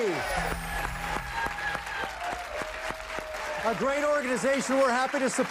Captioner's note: cheers and applause